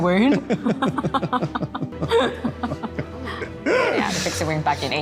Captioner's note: both laughing